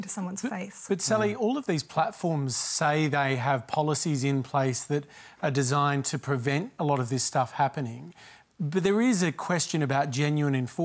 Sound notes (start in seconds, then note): none